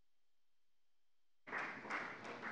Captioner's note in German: Beifall bei der FDP